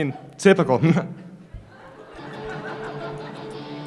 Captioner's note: chuckles